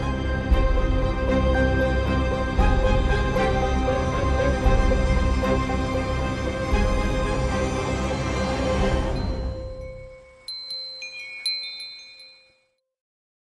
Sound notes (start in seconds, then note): 9.1 chimes ringing